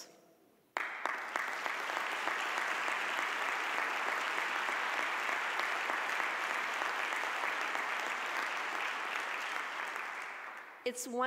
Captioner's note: audience applause